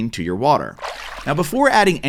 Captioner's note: water splashing